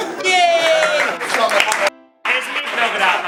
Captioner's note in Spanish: Aplauso